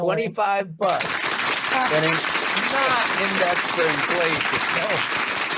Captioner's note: applause booming